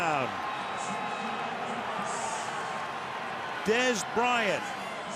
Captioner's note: crowd cheering